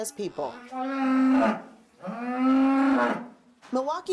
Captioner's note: cow mooing